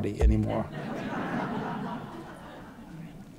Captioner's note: laughter